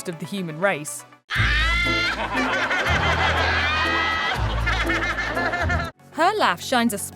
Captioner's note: laughing